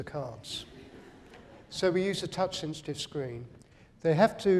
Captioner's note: laughter